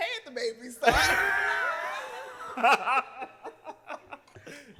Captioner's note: laughter